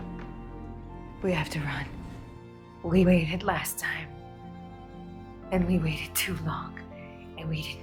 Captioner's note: voiceover